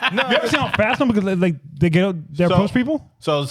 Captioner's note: laughing